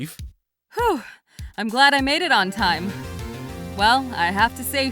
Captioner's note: whew!